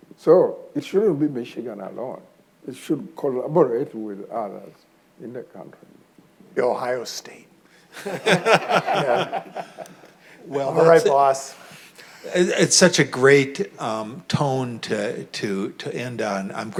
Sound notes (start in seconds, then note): 7.9 audience laughing